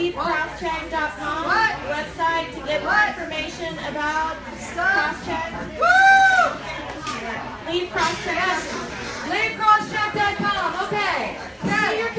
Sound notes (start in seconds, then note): 5.8 cheering